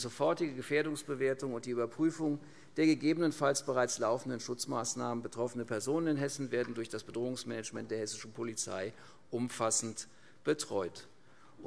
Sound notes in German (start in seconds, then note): none